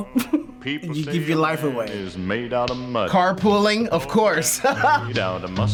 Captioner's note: chuckles; laughs